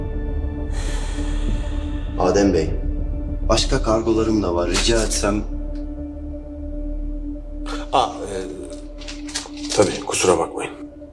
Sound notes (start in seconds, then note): 0.6 sighs; 7.6 surprises and mumbles